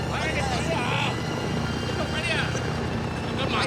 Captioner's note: speaking chinese